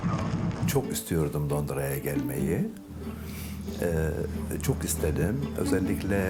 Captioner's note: speaks in foreign language